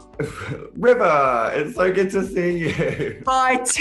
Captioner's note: laughs